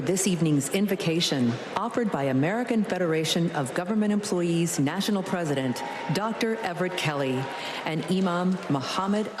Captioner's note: applause